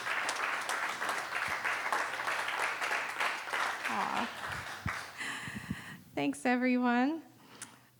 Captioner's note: applause